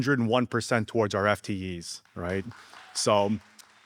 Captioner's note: audience applauding